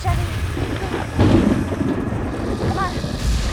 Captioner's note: thunder crashes